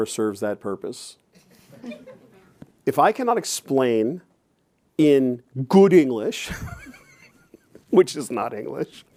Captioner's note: chuckles